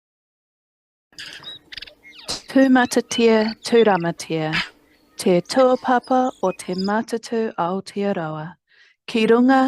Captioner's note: birds chirping